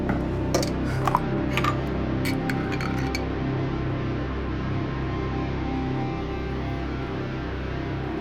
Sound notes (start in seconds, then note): 2.2 cutlery scraping